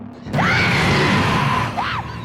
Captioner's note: shrieks; screams